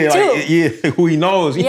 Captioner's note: laughter